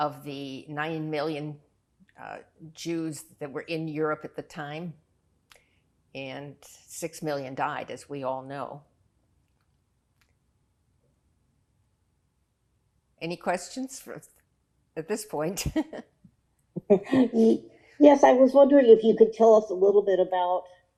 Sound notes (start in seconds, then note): 16.8 laughing